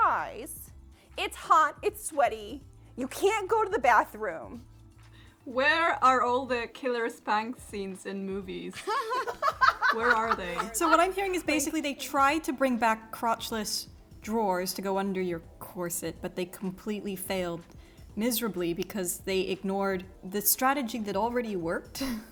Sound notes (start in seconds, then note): 8.8 all laugh